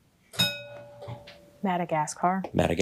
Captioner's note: bell rings